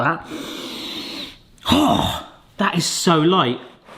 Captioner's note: sniffs in